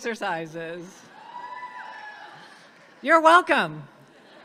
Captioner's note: audience cheers